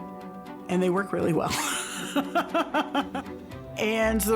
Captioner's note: laughs